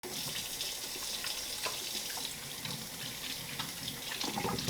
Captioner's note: water running